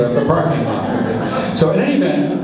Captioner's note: laughs